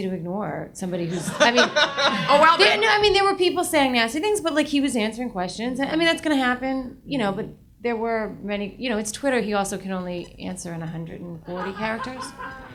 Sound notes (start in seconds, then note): 1.0 audience laughs